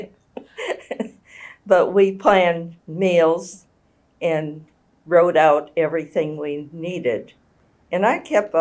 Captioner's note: laughs